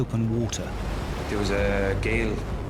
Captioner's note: waves crashing